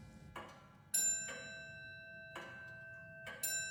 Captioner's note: clock bell tolling